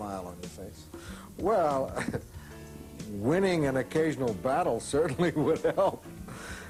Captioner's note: laughing